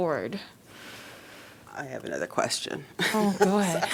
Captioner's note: laughter